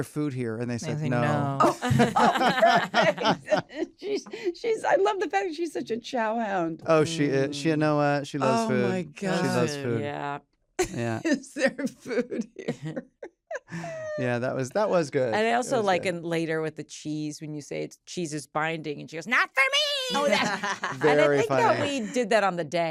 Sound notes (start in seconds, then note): 1.6 laughter; 13.4 laughs; 20.1 laughs